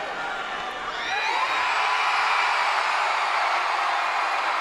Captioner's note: crowd cheering